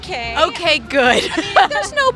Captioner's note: laughs